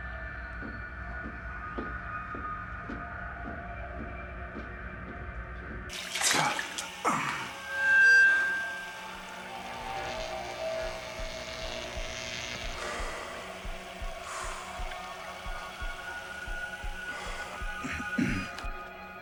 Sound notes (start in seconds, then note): 9.8 electric zap; 12.7 sighs; 17.8 clears throat